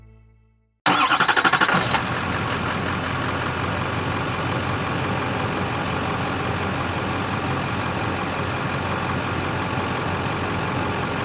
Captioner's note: bright Music; car Engine Revving